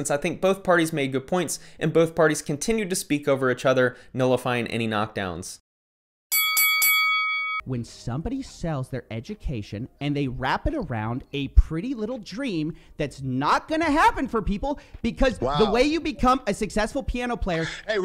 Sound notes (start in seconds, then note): 6.3 bell dings